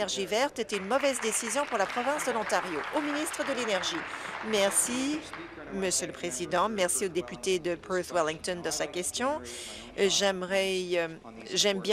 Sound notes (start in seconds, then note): 3.3 applause